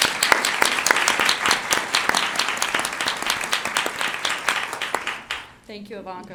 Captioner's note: applause